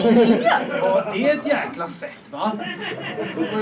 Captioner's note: laughter; laughter